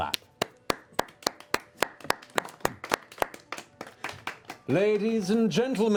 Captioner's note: applause